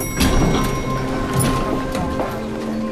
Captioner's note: elevator bell rings